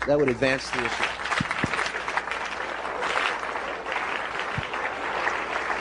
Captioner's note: applause